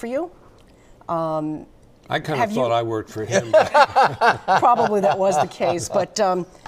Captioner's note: laughter